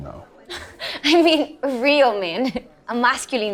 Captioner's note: laughs